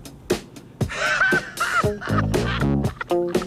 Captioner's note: laughter